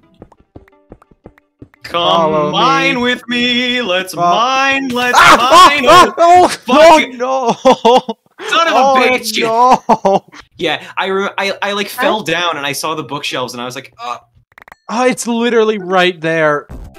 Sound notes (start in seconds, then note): 5.1 screams